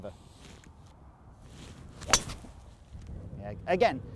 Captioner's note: thwack sound